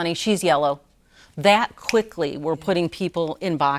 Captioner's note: snaps